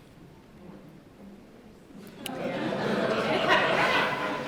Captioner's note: laughter